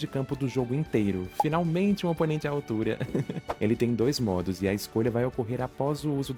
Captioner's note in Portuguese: risos